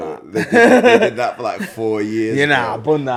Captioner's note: laughs